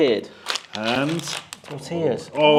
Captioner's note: packet rips